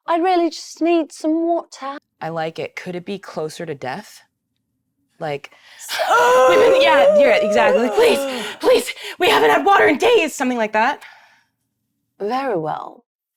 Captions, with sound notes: I really just need some water." - I like it. Could it be closer to death? Like (choking)- - Yeah, you're exactly. - "Please! Please! We haven't had water in days!" Something like that? - Very well.